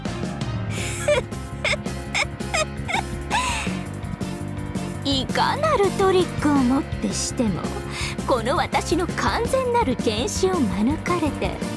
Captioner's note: giggle